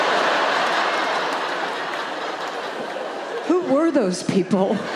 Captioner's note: crowd laughing